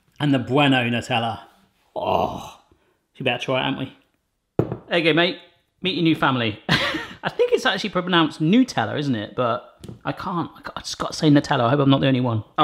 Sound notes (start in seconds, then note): 7.2 laughs